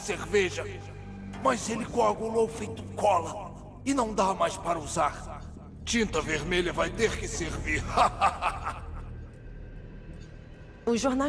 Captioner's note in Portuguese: risadas